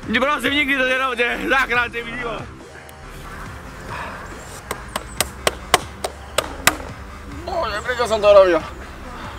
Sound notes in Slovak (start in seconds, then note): 2.6 zvuky prírody